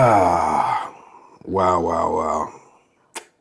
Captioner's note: sighing